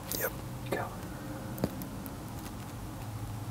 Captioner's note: whispering